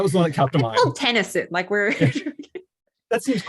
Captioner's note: chuckles